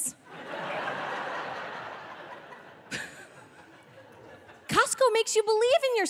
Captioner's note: audience laughing